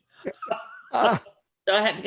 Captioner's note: laughs